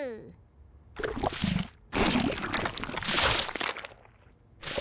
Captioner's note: goo sloshes